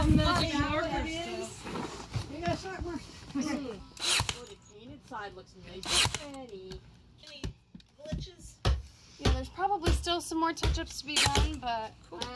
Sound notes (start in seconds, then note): 2.3 chatter